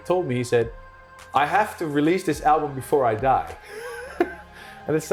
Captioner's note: laughing